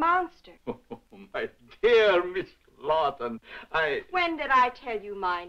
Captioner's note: chuckling